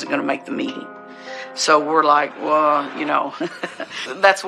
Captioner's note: laughghs